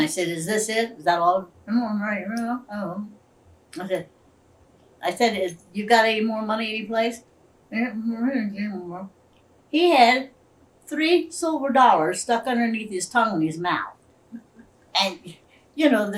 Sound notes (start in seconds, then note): 2.3 Imitates Willy mumbling; 7.5 imitates mumbling